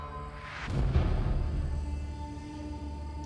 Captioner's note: crickets chirping